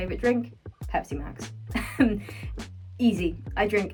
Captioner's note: laughing